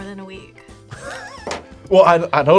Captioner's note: React laughs